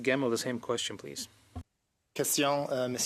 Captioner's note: speaking French